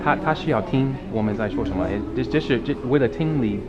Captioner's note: mandarin